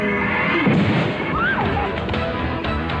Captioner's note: explode